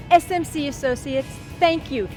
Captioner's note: speaking in foreign language